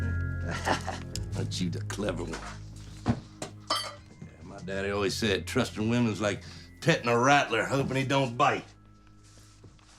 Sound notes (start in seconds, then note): 0.4 chuckles